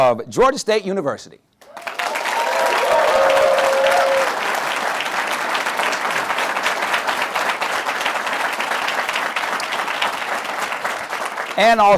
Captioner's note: applause